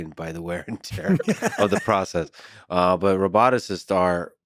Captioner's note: laughing